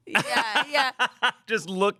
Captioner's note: laughs